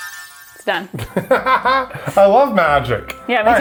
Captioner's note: mystical music; laughs